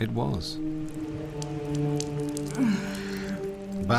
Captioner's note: blood drips; Báthory moans